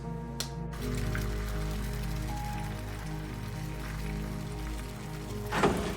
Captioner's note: food frying